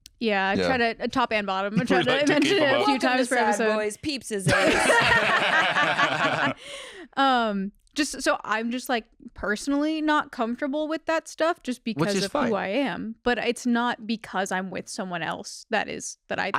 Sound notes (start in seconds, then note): 4.4 all laughing